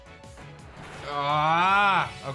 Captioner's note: grunts